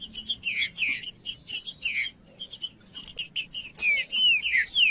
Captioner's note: trinca ferro cantando; trinca ferro cantando